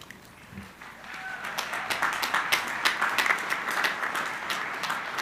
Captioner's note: crowd applauding